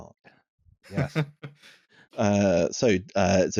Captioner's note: chuckles; quietly